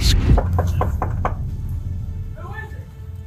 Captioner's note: officer knocks on door